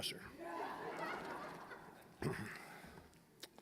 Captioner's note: audience laughing